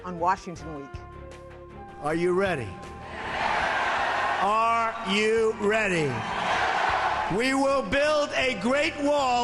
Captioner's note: cheers